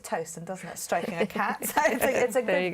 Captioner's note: laughter